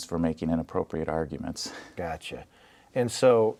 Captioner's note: laughing